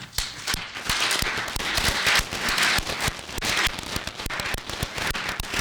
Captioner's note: applause